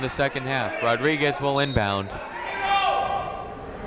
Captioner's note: whistle tweeting; people shouting in the crowd